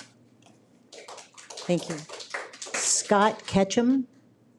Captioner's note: audience applauds